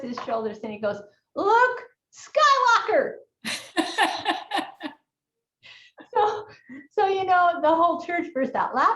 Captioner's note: both laughing